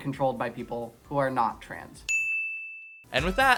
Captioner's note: ding!